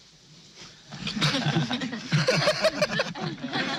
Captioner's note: all laugh